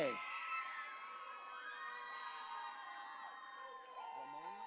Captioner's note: audience cheering